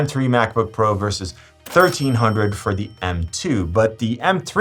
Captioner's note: cash register dings